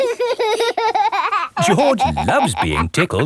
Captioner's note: laughing